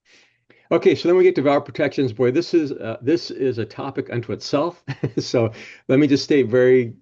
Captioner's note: laughs